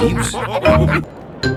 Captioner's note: all laughing